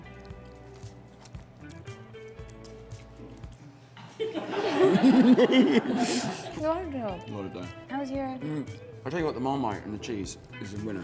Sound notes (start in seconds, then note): 4.1 laughs